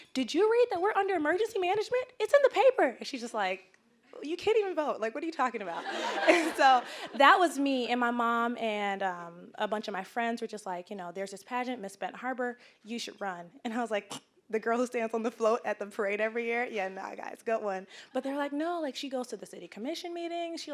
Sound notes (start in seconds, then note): 5.8 audience laughing; 14.0 scoffing